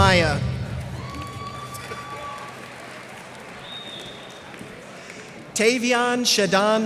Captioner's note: cheers and applause